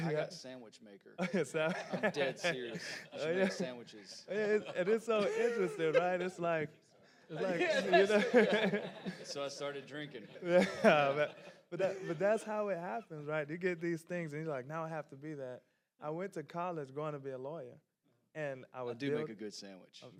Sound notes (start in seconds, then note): 1.2 laughing; 6.9 speaking quietly; 7.2 panelists laughing